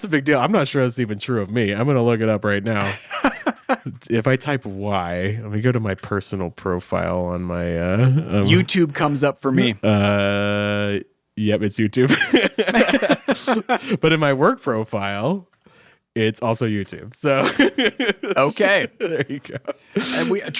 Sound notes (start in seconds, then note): 2.8 laughing; 12.0 both laughing